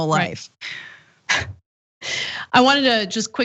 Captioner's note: laugh